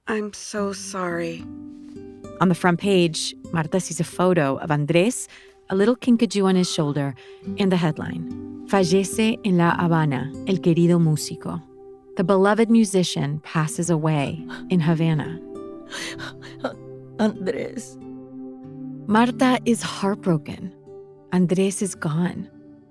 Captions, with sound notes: I'm so sorry. - On the front page, Marta sees a photo of Andres, a little kinkajou on his shoulder, in the headline. (speaks in foreign language) "The beloved musician passes away in Havana." (Marta sobs) - Andres. - Marta is heartbroken, Andres is gone.